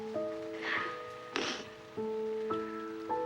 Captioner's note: sniffles